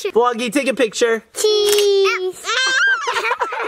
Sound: camera shutter sound effect

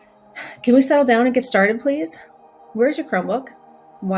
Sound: sighs

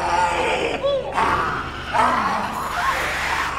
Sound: scream; furious snarls

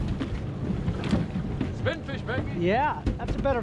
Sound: reel spinning

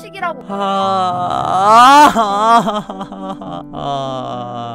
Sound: grumbling

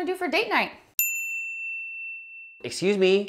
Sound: bell dings

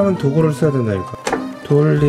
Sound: pop

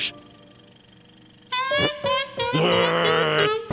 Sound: growls; trumpeting laughter

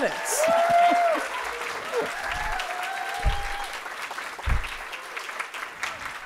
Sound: audience applauding and cheering

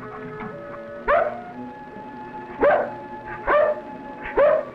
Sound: dog barks

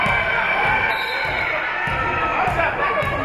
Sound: spectators shouting encouragements; whistle being blown; spectators shouting encouragements

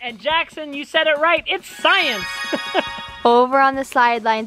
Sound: laughs

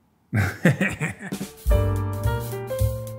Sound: laughs; classy jazz music

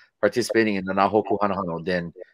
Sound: speaking foreign language

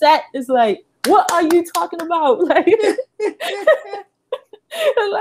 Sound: laughs

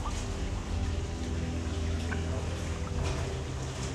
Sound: water dripping

